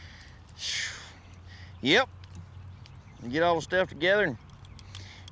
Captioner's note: exhales